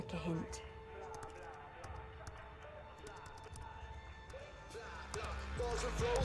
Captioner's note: upbeat hip-hop music; laptop keyboard clicking; rapper rapping faintly continues